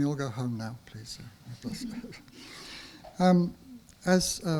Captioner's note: audience chuckles